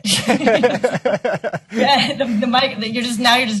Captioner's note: both laughing